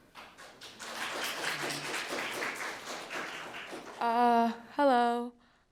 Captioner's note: audience applauding